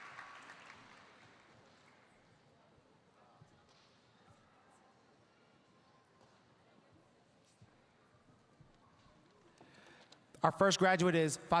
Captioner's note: cheers and applause